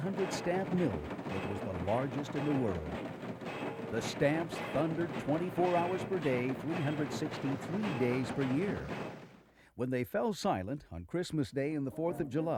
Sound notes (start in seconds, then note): 0.0 loud clanking